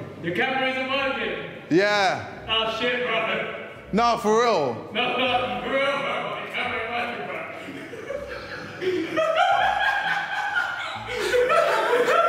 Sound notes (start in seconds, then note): 7.7 Ethan laughing